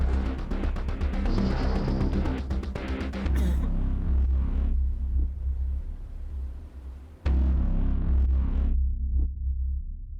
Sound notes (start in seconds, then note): 3.2 coughing